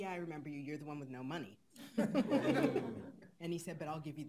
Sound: laughing

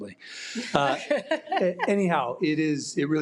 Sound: audience laughing

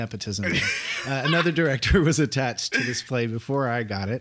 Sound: laughs

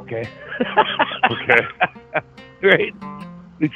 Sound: laughs

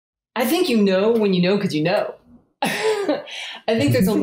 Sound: laughs

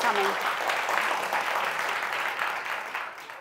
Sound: applause

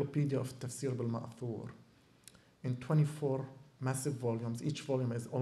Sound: non-english

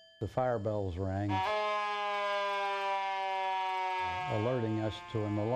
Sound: siren blaring

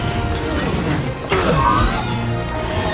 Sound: grunting

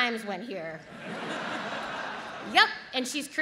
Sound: audience laughs

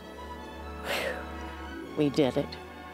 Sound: sighing

